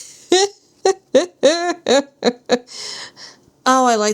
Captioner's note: laughs